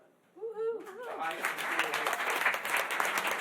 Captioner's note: applause